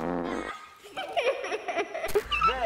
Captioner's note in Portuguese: Risos